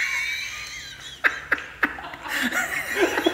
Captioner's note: laughter